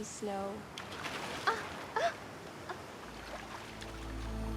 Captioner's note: gasping; dramatic music